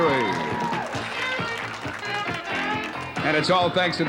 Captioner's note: cheering and applause